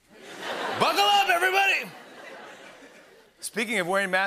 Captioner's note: laughter